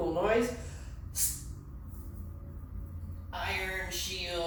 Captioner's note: exhales sharply